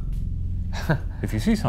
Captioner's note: chuckling